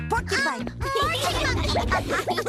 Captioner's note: all laughing